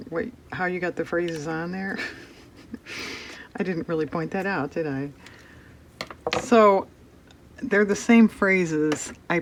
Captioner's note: laughs